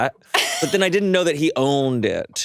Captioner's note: chuckles